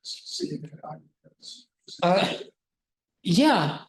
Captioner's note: student faintly speaking